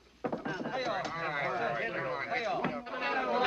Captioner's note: people chattering